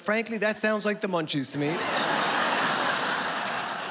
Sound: laughter

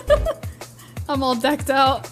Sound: giggles

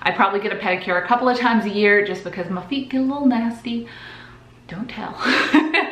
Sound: laughs

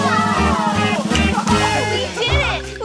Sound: cheers

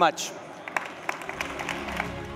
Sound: applause; upbeat music

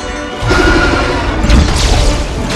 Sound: roars

